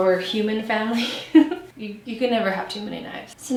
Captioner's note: laughs